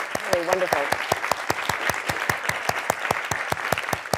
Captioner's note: audience clapping